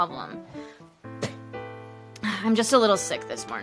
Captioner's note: Steph spits